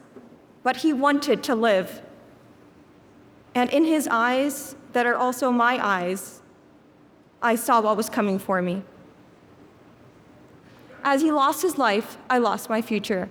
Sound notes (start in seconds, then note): none